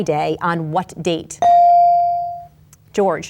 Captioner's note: bell dings